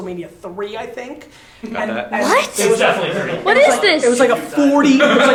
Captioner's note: laughing